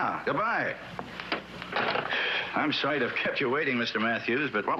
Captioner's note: sighs